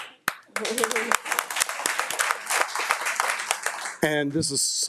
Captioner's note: audience applauding